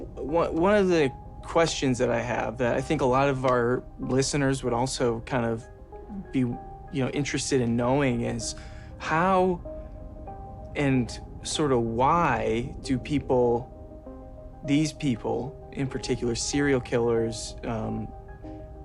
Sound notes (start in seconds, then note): none